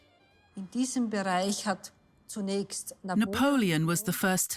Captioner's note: speaks in foreign language